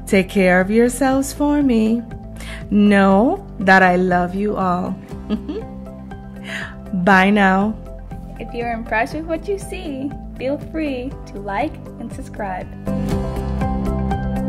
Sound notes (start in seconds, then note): 5.2 giggles